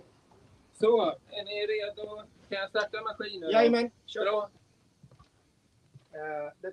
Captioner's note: speaking in Swedish